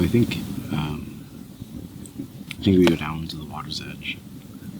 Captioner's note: footsteps crunching